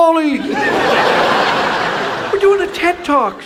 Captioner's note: audience laughs